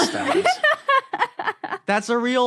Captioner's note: laughs heartily